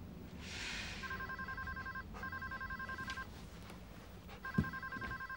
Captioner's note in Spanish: suspira; el teléfono suena